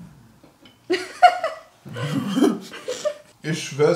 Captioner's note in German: beide lachen